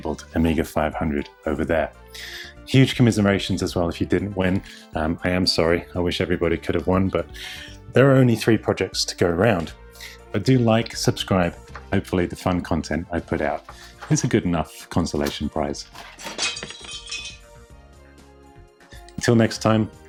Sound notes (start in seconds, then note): 15.9 breaking noise